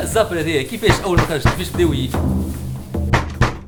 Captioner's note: knock knock knock